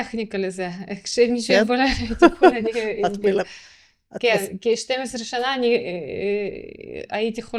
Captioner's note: laughter